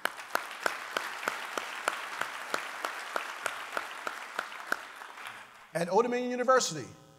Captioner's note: applause